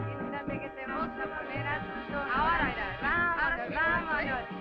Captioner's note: dancers speaking Spanish